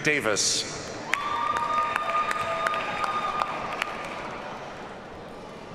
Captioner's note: audience cheers and applauds